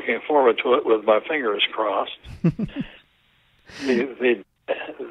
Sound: laughs

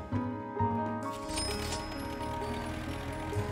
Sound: cash register dings

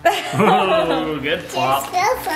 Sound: chuckling

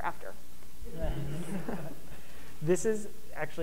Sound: audience laughing

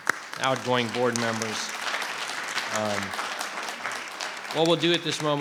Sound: audience clapping

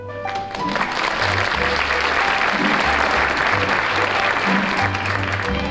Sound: soft piano music; audience applauds

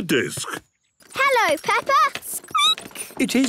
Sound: squeaking

